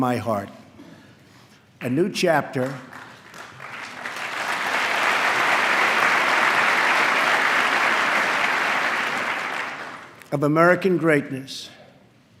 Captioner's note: applause